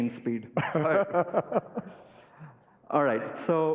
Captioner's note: laughter